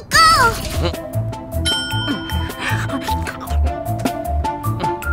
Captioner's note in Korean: 종이 울린다